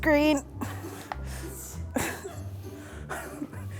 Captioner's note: chuckling